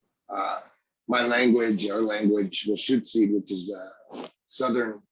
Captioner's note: speaking in lushootseed